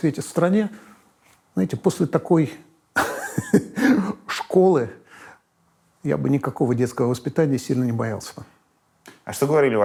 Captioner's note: laughs